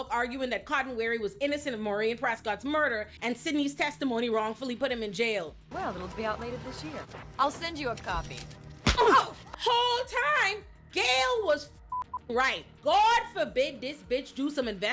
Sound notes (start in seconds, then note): 9.3 grunts; 11.9 beep